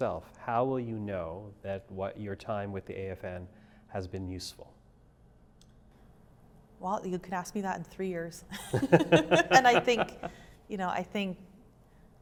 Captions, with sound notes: How will you know that what your time with the AFN has been useful? Well, you can ask me that in three years. [laughing] And I think, you know, I think, I